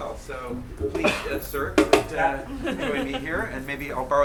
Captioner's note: clinking; student laughing